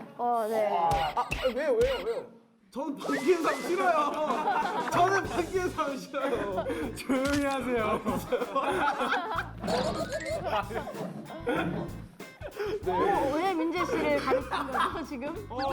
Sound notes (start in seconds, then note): 9.6 laughing